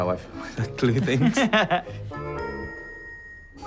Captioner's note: laughter